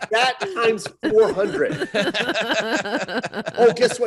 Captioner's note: laughing